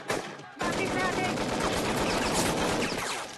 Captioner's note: german soldiers shouting